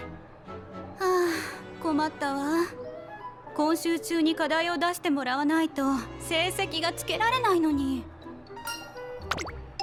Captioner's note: sigh